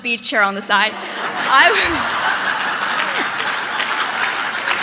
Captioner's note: audience laughing